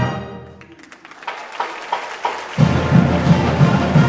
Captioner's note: applause